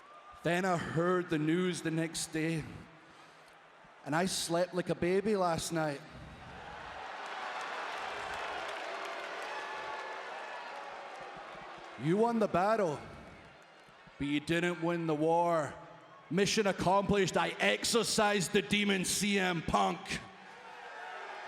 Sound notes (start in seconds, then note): 6.3 applause